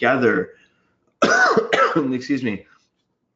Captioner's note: coughs